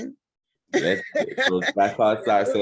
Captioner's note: laughing